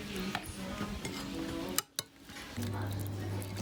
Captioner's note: plate and cutlery clattering